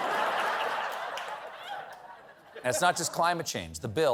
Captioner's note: laughter